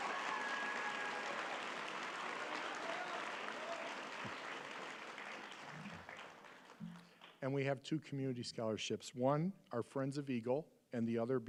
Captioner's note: applause